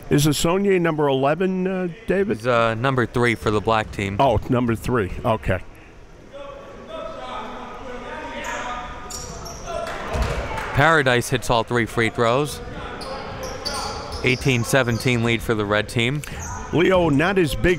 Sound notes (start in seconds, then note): 6.4 coaches and players yelling; 10.5 applauding